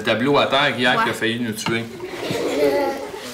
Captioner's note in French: rires